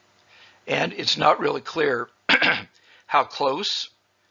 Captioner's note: clears throat